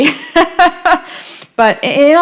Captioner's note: laughing